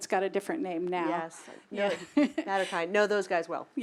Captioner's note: laugh